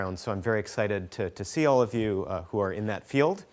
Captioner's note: none